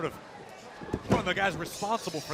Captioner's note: crowd chatter